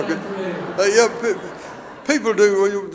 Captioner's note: audience laughing